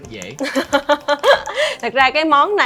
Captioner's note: laugh